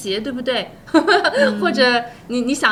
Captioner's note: laughter